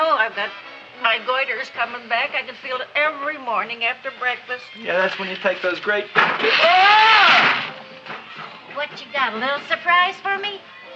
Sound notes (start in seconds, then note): 6.3 Seymour yells